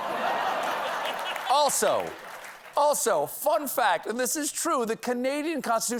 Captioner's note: laughter